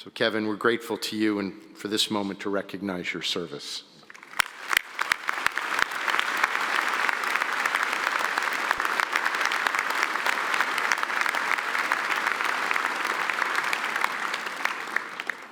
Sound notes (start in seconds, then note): 4.9 applause